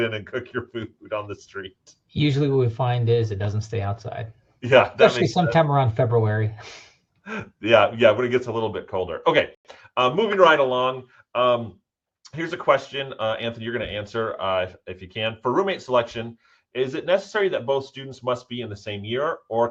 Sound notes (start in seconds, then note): 7.0 both laughing